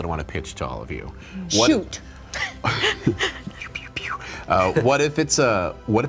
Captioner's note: light laughter; light whistling